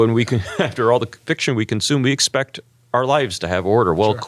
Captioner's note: laugh